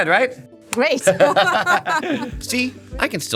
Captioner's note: laughing